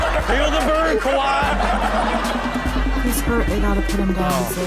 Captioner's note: crowd laughs